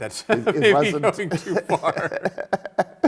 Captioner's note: both laughing